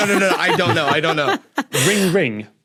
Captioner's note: others laughing